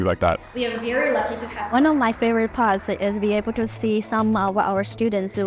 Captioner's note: voiceover